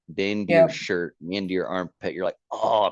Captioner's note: groans